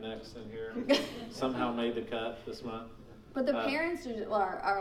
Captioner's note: laughing